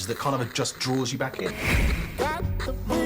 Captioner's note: television static